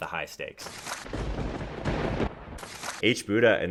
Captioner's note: thunder crackles